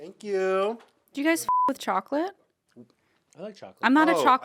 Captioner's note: beep